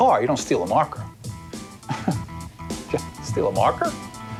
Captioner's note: chuckles